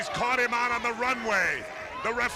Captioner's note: crowd chatter